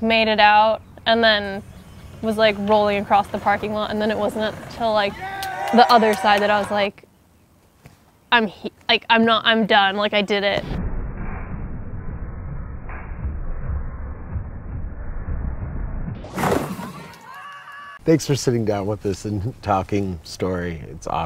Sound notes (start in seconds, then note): 10.6 slow motion skating noises; 16.7 yell